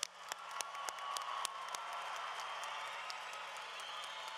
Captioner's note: applause